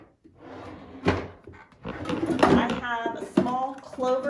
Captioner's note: drawer closes and opens